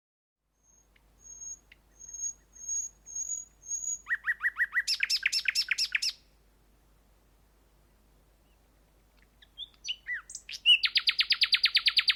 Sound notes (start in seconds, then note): 0.6 bird Song